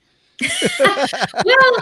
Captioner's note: everyone laughing